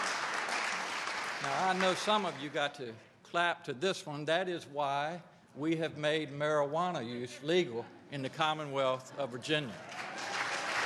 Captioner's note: applause